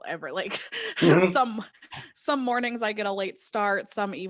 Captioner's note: laughing